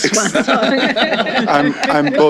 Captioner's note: laughter